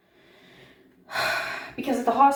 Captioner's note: sighs